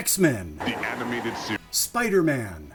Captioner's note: deep announcer voice